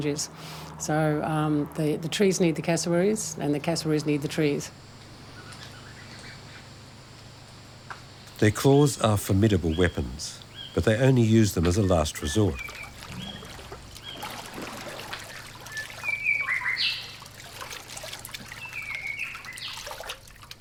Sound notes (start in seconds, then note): 14.0 water splashing; 16.7 bird chirping